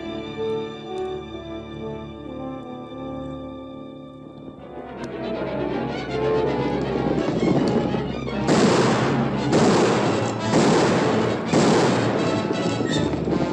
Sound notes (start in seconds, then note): 6.1 gunshots and horses galloping